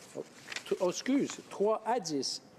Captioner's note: speaking French